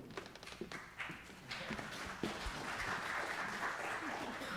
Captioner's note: audience applause